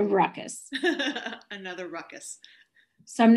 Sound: laughing

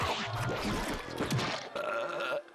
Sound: belching

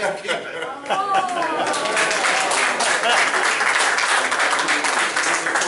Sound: applause

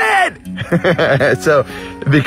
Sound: laughs

